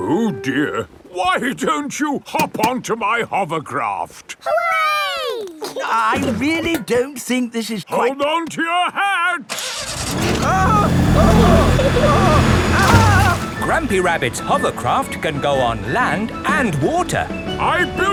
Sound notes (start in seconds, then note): 10.8 grandpa screaming